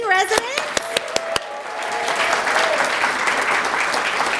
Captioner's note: applause